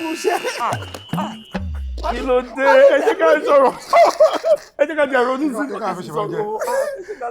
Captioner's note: everyone laughs